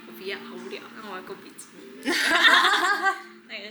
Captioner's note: laughs